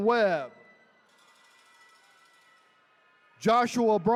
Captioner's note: attendees cheering